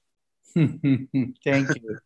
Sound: laughs

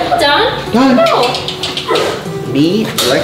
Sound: clicking tongue

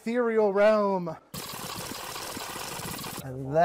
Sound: fast forward noise

